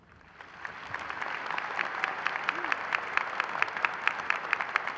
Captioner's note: audience applauding